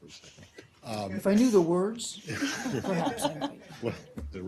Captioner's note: laughter